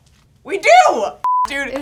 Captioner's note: high pitched beep